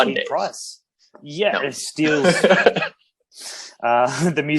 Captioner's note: laughs